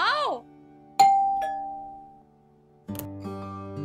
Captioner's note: doorbell rings